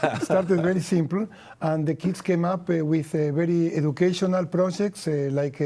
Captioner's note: laughs